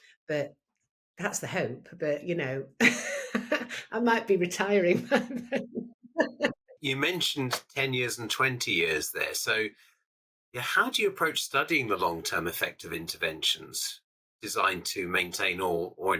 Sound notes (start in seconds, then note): 6.2 person laughing